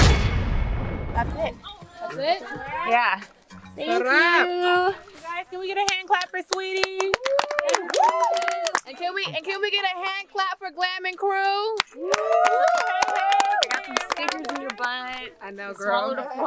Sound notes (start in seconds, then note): 7.0 cheering; 11.7 clapping, cheering